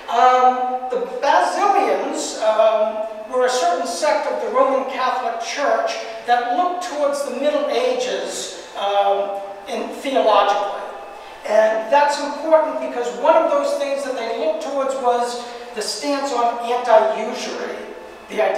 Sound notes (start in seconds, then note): none